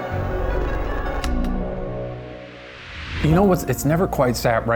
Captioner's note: projector clicks